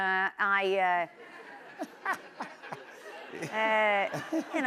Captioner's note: laughter